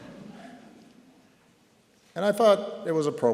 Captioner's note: laughter